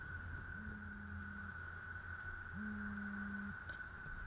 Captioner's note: phone buzzes